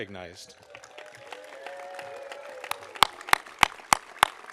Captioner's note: audience applauding